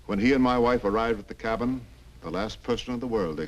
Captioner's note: none